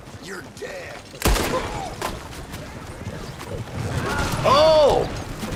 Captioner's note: gunshot cracks